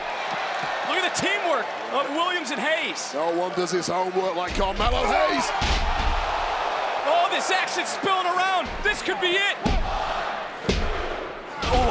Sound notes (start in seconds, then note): 0.1 crowd cheering; 5.7 crowd cheering; 9.6 hand pounding